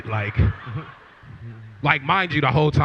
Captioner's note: laughter